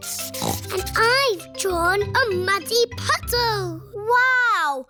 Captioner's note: snorts